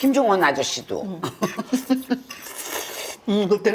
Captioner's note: laughing